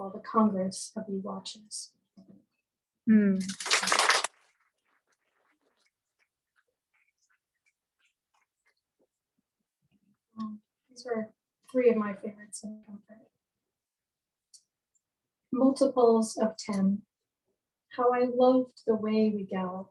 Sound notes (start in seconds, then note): 3.4 applause